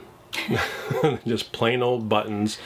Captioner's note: both laughing